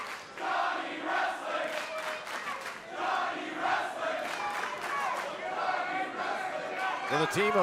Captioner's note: crowd cheering